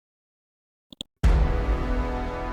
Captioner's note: mouse clicks; dramatic chord